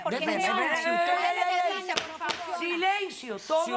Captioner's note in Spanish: Hablan al unísono